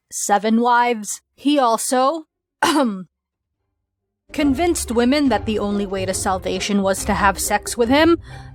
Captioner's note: clears throat